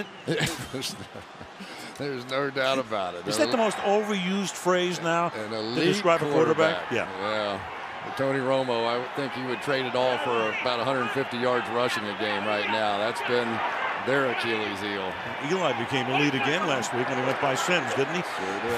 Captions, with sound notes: isn't it? [laughs] There is no doubt about it. Is that the most overused phrase now-- An elite quarterback. --to describe a quarterback? Yeah. Yeah. And Tony Romo, I think he would trade it all for about 150 yards rushing a game right now. That's been their Achilles heel. And Eli became elite again last week when he went by Sims,